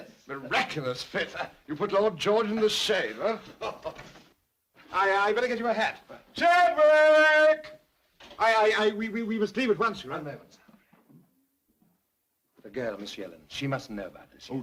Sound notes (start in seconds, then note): 3.4 Sir Humphrey laughs; 8.3 stammering